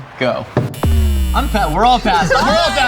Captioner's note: button buzzing